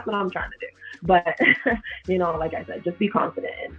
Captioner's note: laughs